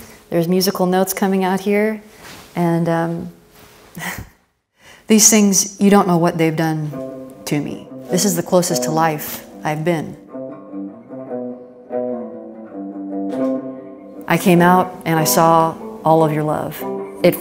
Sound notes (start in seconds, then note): 3.4 chuckles; 10.5 soft guitar music